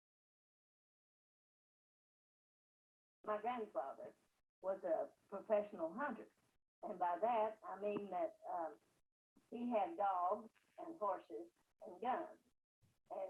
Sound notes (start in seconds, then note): 3.4 voice From CD